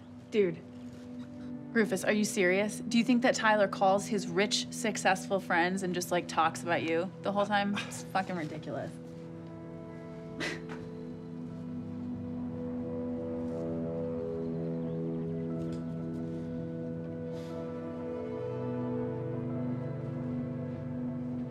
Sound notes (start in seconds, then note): 10.4 Jane scoffs; 13.6 soft, tense music